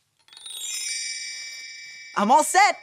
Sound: stars twinkling

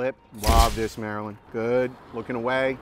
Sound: shutter snaps

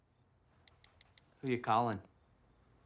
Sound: Julie taps keys

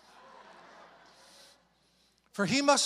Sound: congregation laughs

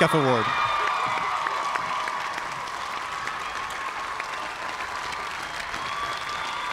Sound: cheers and applause

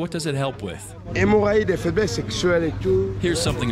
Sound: man speaking foriegn language

